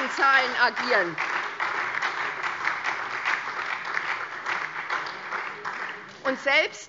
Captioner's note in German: Beifall SPD und DIE LINKE